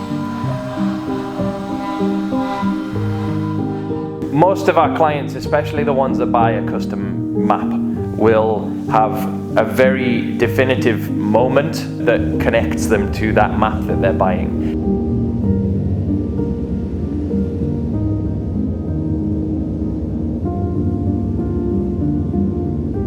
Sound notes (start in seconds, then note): 0.3 gentle piano music; 15.3 light winds whirling; 19.3 gentle piano music